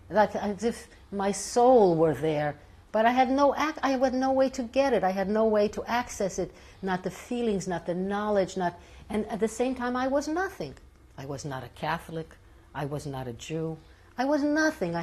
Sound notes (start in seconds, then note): none